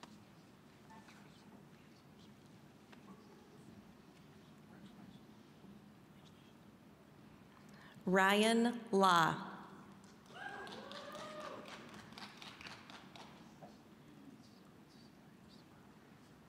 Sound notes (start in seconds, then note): 10.3 scattered cheering